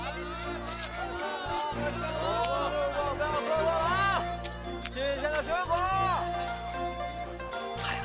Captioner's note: market vendors and buyers shouting and talking